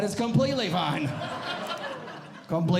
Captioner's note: audience Laughing